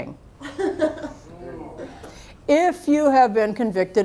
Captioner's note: laughter